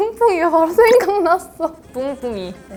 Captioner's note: laughing